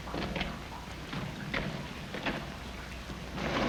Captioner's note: footsteps approaching